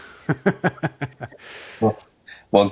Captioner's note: laughs